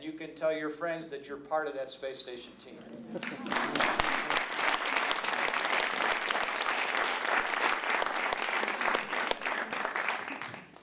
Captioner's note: applause